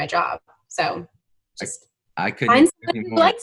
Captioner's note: laughs